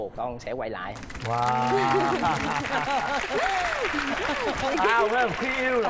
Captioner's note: applause